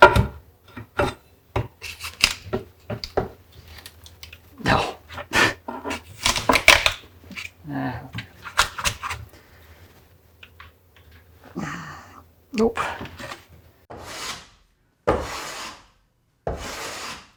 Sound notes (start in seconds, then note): 13.8 tool scraping